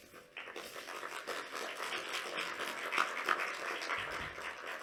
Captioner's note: applause